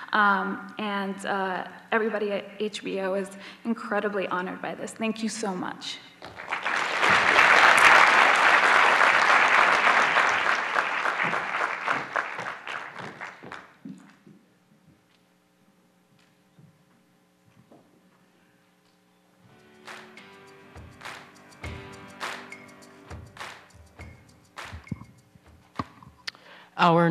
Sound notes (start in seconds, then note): 6.2 applause